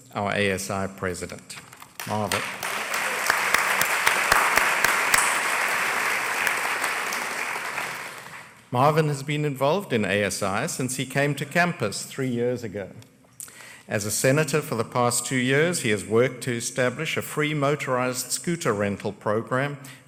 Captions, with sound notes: OUR ASI PRESIDENT. MARVIN. [ APPLAUSE ] MARVIN HAS BEEN INVOLVED IN ASI SINCE HE CAME TO CAMPUS THREE YEARS AGO. AS A SENATOR FOR THE PAST TWO YEARS HE HAS WORKED TO ESTABLISH A PRE-MOTORIZED SCOOTER RENTAL PROGRAM